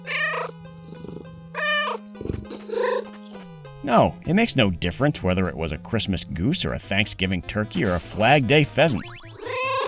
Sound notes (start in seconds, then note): 0.0 meow